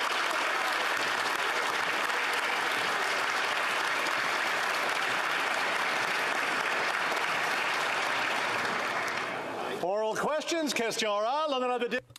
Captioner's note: applause